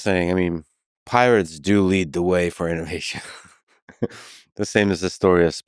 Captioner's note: laughs